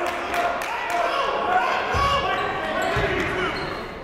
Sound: shouting

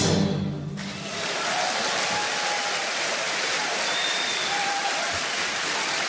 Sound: audience applauds and cheers

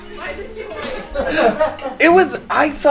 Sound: laughing

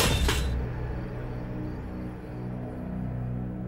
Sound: gunfire; crashing

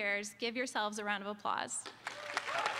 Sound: applause

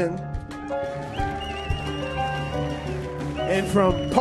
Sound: audience cheers

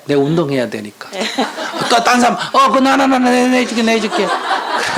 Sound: questioner/Audience Laughter

